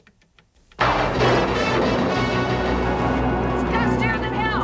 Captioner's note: dramatic music; thunder rolling